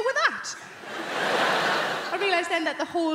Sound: crowd laughing

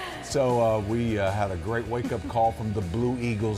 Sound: laughter

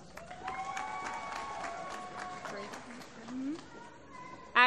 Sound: applause

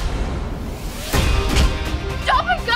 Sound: thump

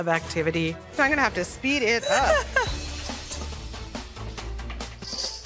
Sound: laughs

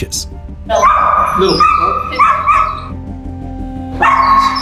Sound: dog barks

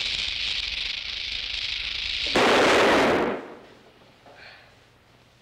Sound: gunshot

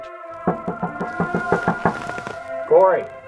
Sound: knocking at door

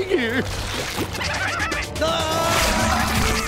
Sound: laughing

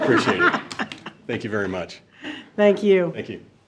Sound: board laughing

